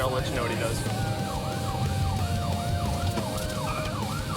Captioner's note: siren wailing